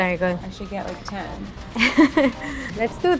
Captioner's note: laughs